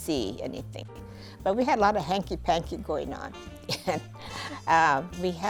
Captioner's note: laughs